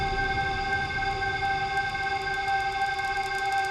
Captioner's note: crackling